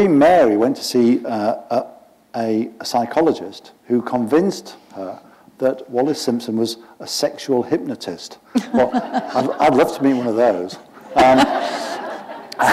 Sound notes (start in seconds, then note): 11.0 laughter